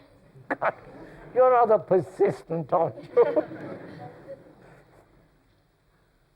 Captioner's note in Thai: หัวเราะ